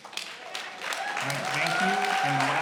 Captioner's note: cheering and applauding